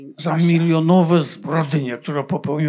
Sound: foreign language

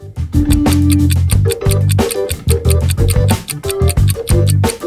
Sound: seconds ticking down

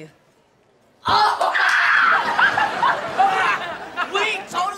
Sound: screaming

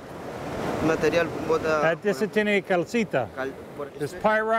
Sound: both speaking Spanish

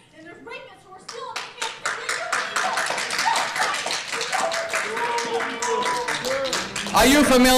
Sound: protestors clapping

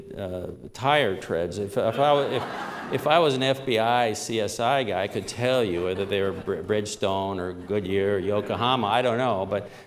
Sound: laughter

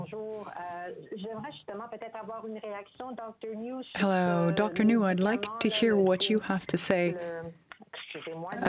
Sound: speaking French

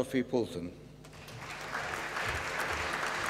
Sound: applause

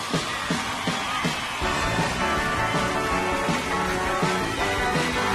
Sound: audience cheering

